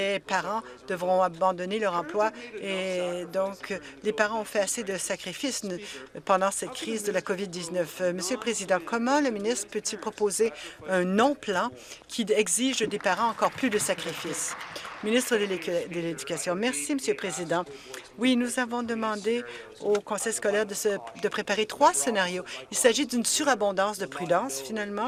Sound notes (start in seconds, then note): 16.9 applause